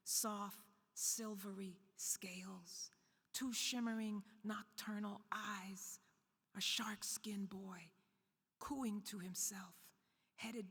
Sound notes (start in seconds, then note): none